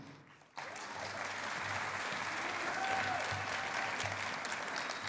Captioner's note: cheering and applause